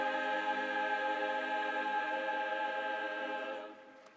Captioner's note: applause